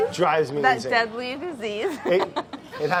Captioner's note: laughs